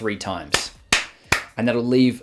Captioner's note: claps